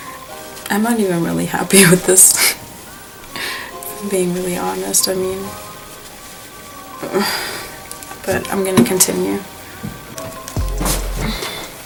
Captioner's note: groans